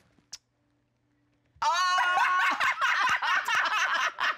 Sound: group laughs

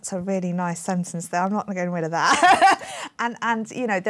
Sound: laughs

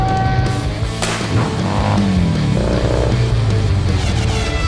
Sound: car engine running; roars

